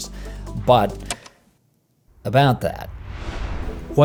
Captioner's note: air whooshing